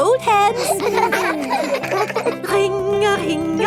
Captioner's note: giggling